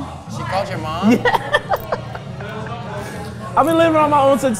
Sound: laughs

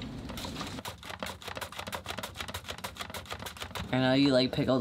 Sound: blade slicing

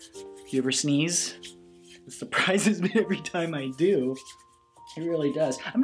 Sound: laughs

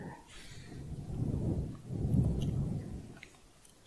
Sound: windy sounds

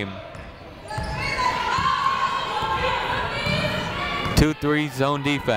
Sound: people shouting in the crowd

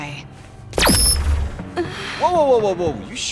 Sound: screech

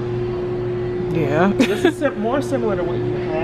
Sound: laughs

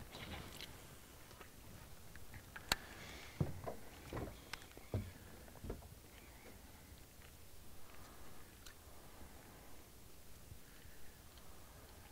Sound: reel spinning

